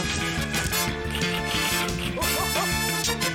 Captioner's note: keys clack